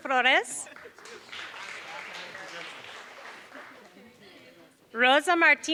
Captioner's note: applause